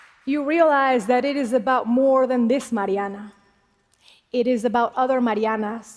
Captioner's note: applause